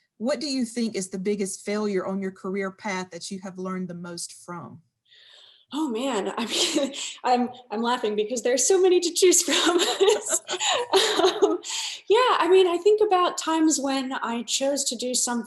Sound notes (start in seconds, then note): 6.7 laughs; 9.4 laughing; 9.4 laughs